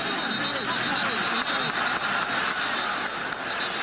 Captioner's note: whistle blowing